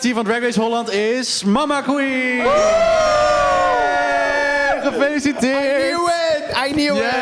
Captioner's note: cheers all around